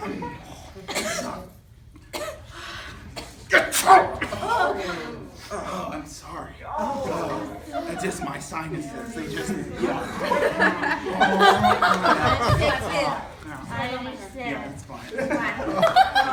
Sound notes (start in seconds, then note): 3.1 sneezing